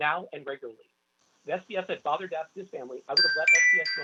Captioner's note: chime